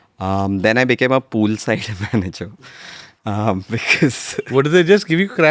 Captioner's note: laughs